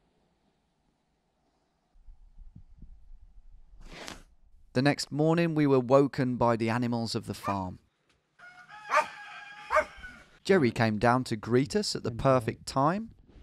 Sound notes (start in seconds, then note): 7.8 dog barking; 8.4 rooster calling